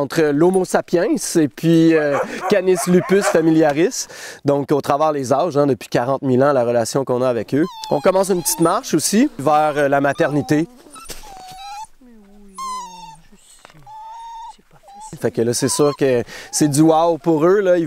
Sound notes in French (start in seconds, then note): 11.2 gémissements de chiots